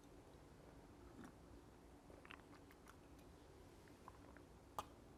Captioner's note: drinking